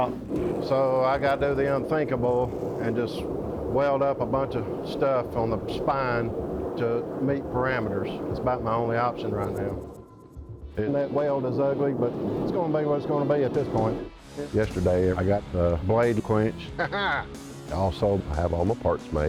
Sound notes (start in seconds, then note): 16.7 laughs